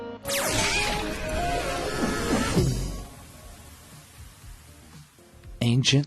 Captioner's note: upbeat music; mascot screams